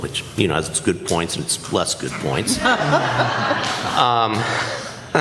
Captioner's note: laughter